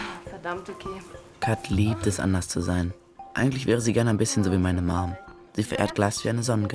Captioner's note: Kat speaking in foreign language; Phil narrating in foreign language